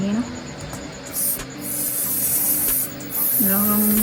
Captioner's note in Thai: เสียงพ่นสเปรย์